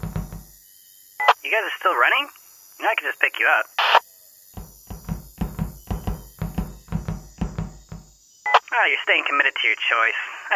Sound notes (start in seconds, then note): 1.5 over comm